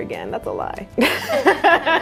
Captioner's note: chuckles